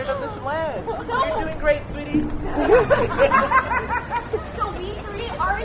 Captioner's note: laughter